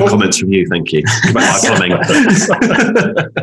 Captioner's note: they laugh